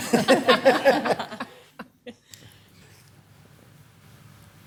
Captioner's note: all chuckling